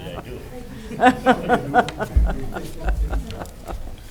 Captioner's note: laughing